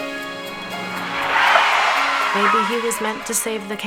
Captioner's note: tires screeching